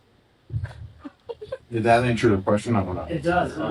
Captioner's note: laughing